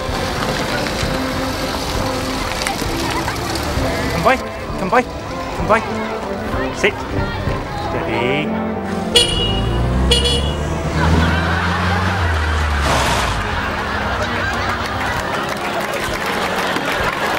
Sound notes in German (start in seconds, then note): 8.4 Horn hupen